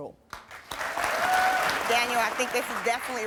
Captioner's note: crowd cheering